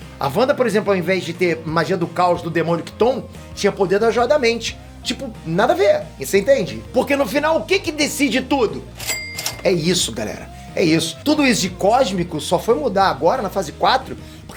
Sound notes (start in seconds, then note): 8.9 sound of money